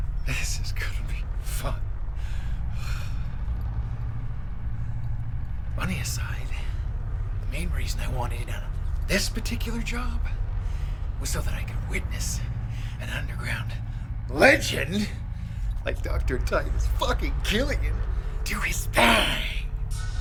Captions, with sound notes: This is gonna be fun. (Lennox breathes deeply) Money aside, the main reason I wanted in on this particular job was so that I could witness an underground legend like Dr. Titus fucking Killian do his thang!